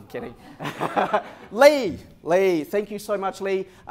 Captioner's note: laughter